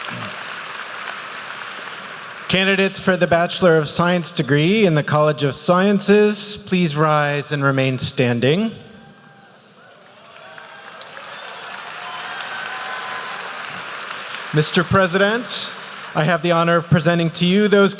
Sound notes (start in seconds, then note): 10.0 applause